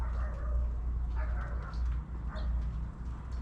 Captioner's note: barking dog